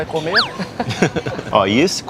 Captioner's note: laughs